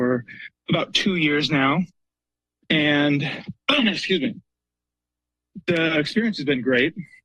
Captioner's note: clears throat